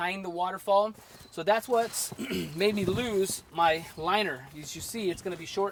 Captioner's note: cough